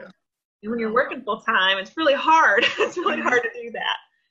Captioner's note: laughs